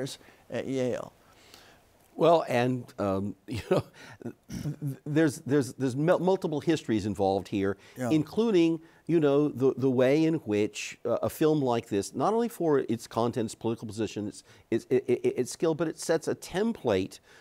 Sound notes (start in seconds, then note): 4.2 chuckles